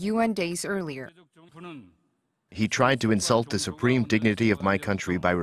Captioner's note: Korean